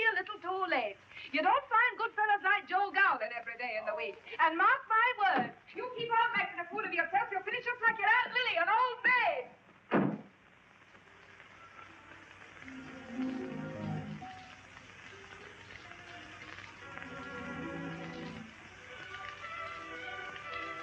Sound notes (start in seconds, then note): 6.8 door slams; 9.1 rain pattering; 12.6 pleasant music